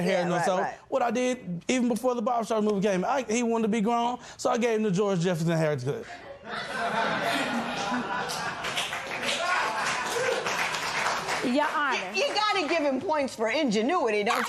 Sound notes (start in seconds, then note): 6.0 spectators laugh; 8.2 light applause